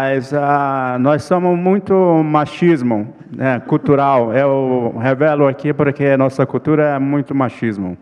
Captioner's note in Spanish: ponente habla en portugués